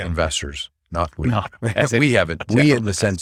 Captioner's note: laughs